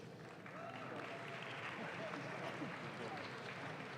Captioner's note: audience claps